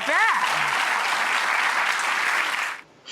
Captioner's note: audience applause